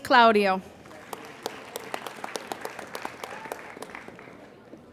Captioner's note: applauding